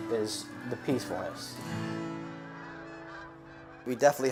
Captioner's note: sound of Birds Migrating